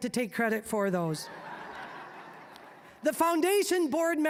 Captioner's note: audience laughing